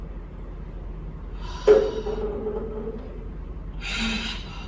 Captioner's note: sighing